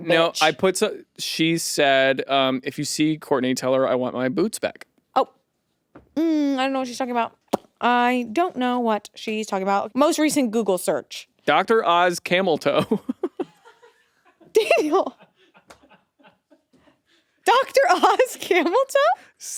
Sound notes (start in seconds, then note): 12.8 laughs; 12.8 producers laugh